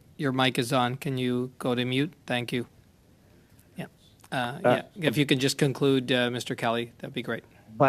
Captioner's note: speaking French